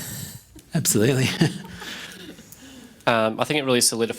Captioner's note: laughing